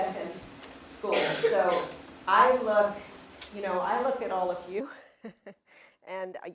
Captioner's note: laugh